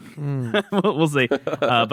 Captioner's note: laughs